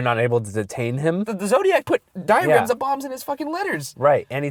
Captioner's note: voiceover